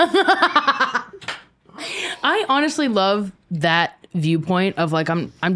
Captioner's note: laughing